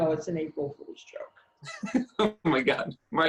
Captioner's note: laughs